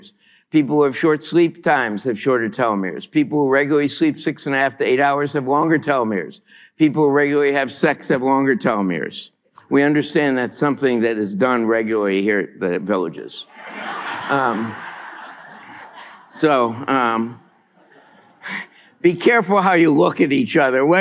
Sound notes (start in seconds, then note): 13.5 laughter